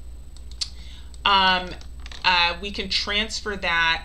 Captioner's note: mouse clicking